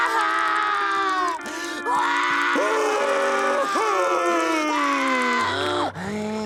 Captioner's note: crying, screaming; breathing